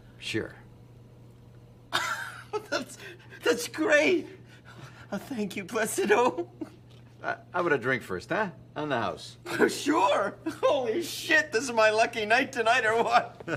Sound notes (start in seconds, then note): 1.9 laughing